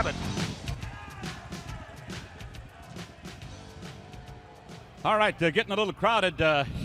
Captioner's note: crowd chatter